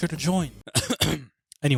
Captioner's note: cough